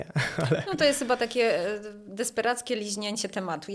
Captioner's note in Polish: śmiech